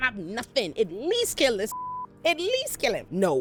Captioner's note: beep